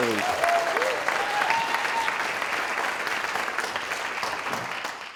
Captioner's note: audience cheering and applauding